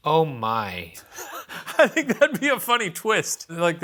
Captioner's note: laughs